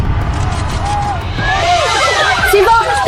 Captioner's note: crying sound